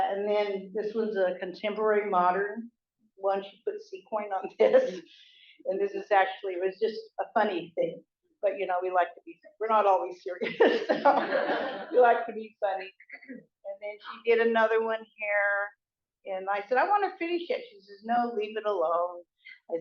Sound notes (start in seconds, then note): 10.4 laughter